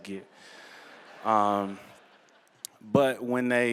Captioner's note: laughter